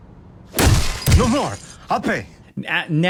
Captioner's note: fist thudding